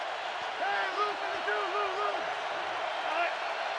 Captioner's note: crowd cheering